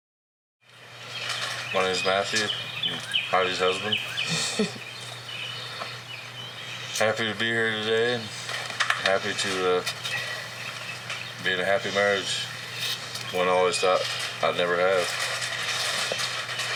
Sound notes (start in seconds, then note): 1.0 birds chirping; 4.2 laughs